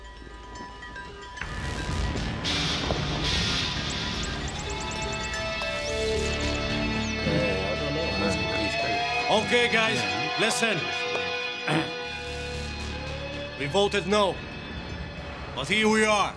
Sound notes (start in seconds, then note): 0.2 intense music; 6.6 bikers chattering